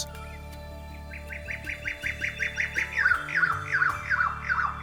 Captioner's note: bird sings